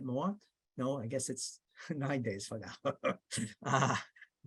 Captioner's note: laughs